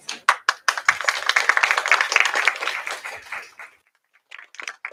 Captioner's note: applause